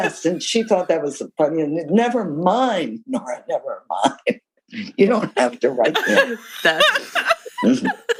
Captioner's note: laughter